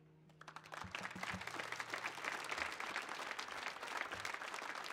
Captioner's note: audience applauds